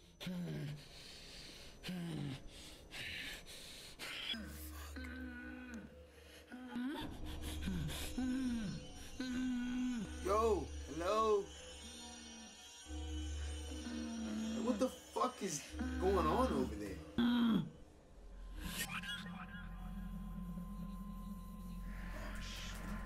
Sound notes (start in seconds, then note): 0.1 muffled Groaning; 6.7 muffled Groaning continues; 17.1 muffled groaning continues